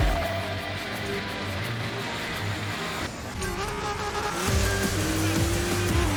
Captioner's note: action music; engines revving